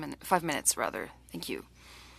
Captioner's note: speaking French